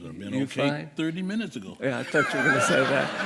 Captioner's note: laughter